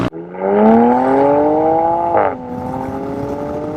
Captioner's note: engine revving